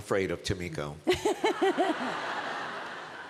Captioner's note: laughter